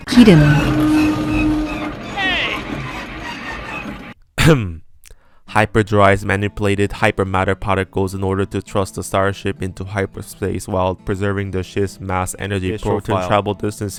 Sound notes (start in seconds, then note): 4.4 ahem